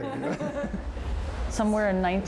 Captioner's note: laughing